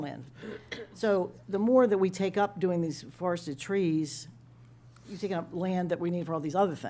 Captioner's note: clears throat